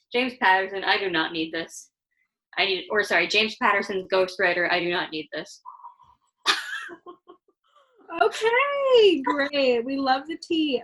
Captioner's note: laughter